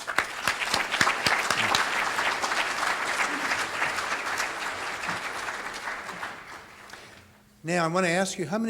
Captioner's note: audience applauding